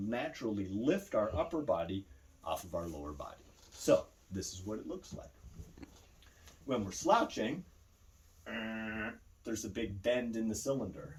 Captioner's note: grunting